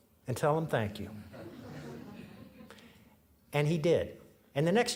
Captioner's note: audience laughing